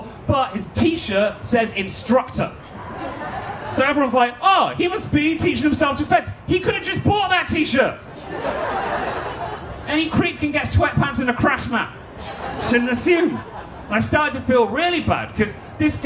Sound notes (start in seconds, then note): 8.1 audience laughing